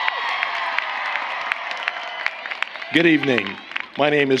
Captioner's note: applause